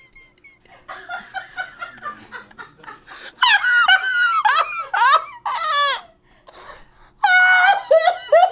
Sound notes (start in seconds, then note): 1.1 crew laughs; 3.9 laughs